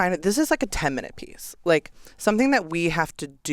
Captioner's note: none